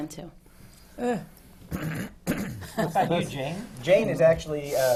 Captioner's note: clears his throat